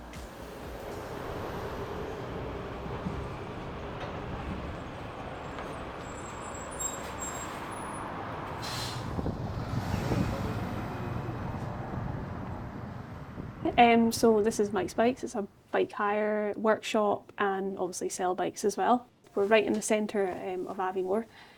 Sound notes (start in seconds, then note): 5.8 vehicle noises